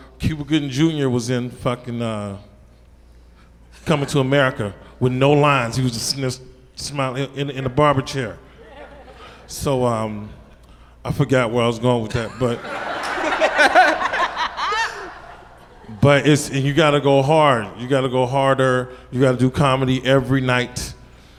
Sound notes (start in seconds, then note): 12.2 panel laughs